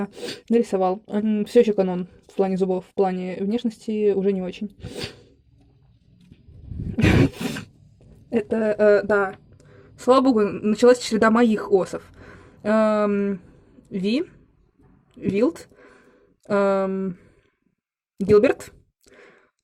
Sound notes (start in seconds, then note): 6.9 muffled laugh